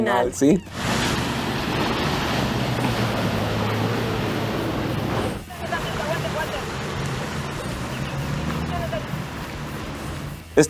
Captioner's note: water running